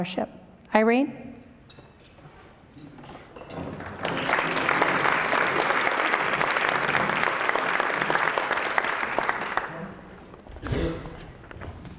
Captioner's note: applause